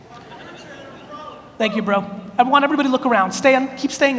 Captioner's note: man yells